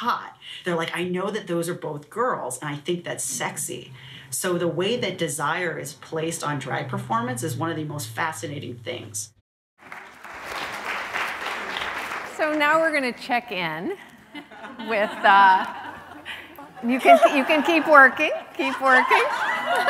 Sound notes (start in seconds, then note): 9.8 applause; 14.1 laughing